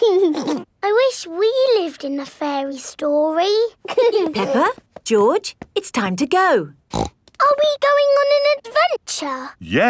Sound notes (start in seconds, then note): 0.0 giggling; 3.9 both giggling; 6.9 snorts